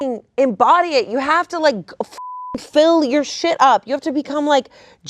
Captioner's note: beep; beep